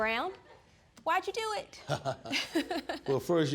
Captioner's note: laughs